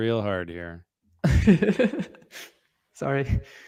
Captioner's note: laughs